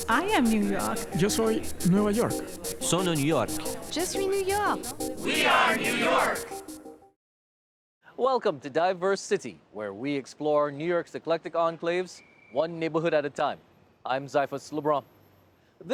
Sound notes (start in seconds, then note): 2.4 Spanish; 4.7 French